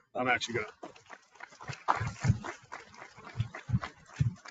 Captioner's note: people clapping